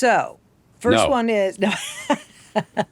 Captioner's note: laughing